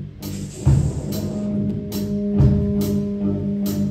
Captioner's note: conch blown